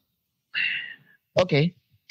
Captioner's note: sighs